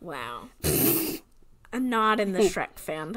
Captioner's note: sputters